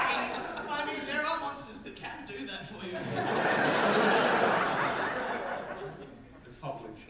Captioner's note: audience laughter